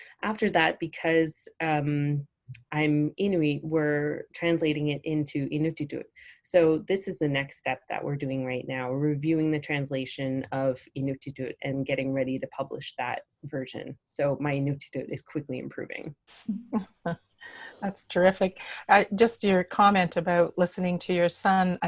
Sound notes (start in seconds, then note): 16.4 chuckles